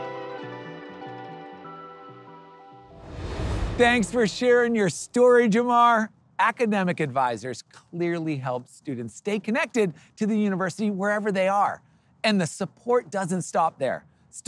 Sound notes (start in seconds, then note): 2.8 transition whooshing